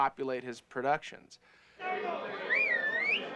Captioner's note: whistles